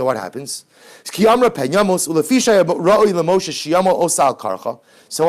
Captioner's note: Hebrew